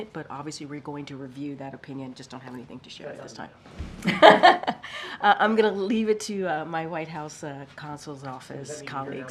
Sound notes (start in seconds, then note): 4.0 laughs